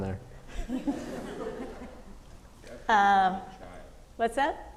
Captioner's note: audience laughing